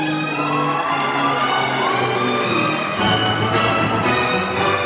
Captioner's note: applause